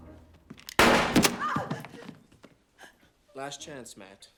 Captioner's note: tense music; gun fires